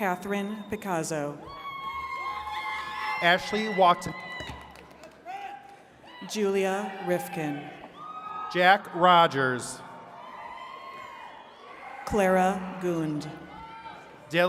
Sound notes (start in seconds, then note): 1.4 attendees cheering; 8.0 attendees cheering